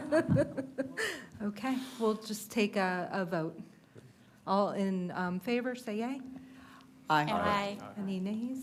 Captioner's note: laughter